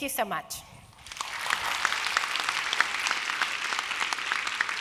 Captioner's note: applause